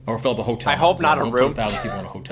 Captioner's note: laughs